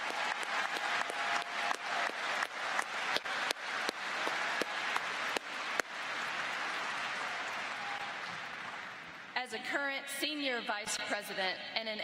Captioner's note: cheers and applause